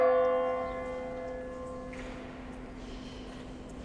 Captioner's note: bell tolling